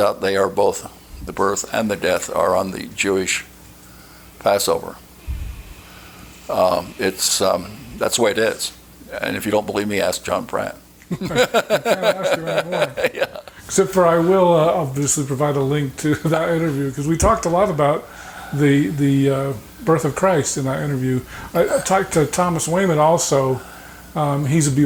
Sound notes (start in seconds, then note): 11.0 chuckling